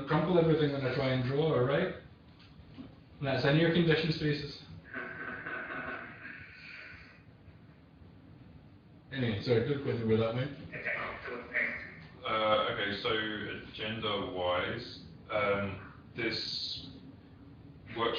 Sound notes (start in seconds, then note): 5.0 laughter